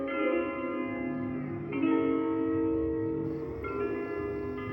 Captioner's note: insects chirping